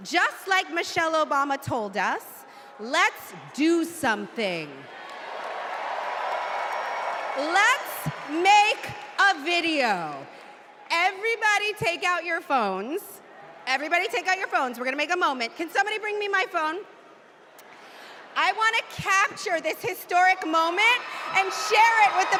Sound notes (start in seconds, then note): 11.8 cheers and applause